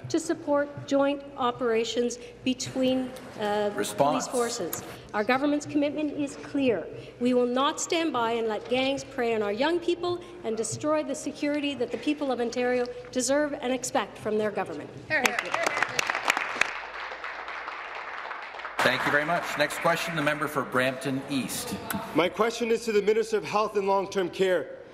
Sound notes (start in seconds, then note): 19.9 applause